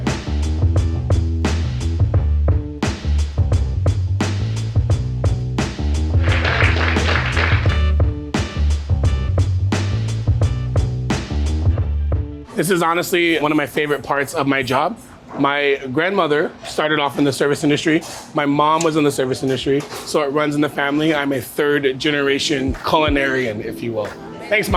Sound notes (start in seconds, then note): 0.1 mellow groove music; 6.1 people clapping; 10.3 mellow groove music